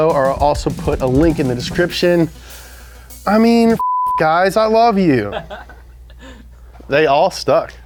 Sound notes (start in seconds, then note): 3.8 beep; 5.1 guy laughs